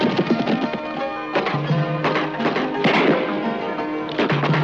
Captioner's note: gunshots